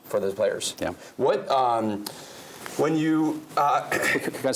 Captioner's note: cough